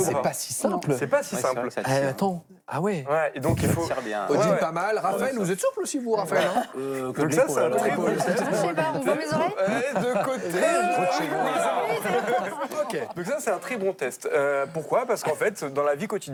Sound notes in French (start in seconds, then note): 8.0 rires